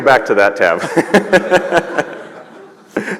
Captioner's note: laughter